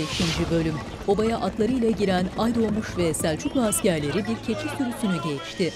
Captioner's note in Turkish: At nalı sesleri